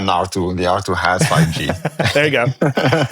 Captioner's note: chuckles